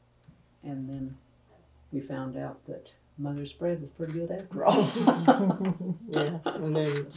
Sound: laughs

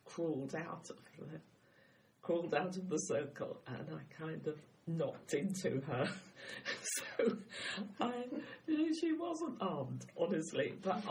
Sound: laughs

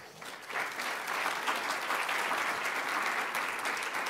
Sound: applause

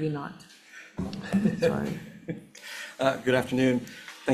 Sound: laughing

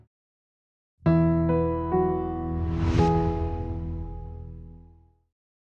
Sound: bright music; whooshing

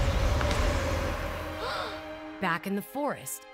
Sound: gasping

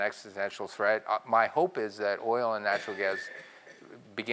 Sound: cough

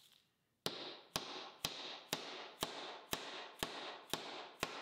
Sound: hammer whacks

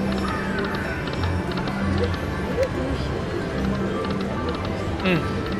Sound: slot machine clicking

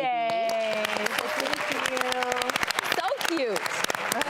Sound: audience applauds

